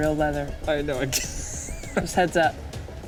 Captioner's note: laughs